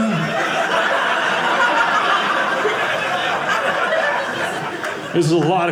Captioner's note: audience laughing